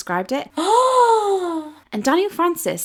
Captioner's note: gasping